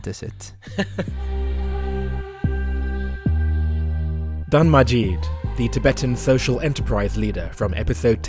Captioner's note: voiceover